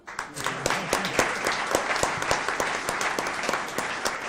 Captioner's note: audience applauds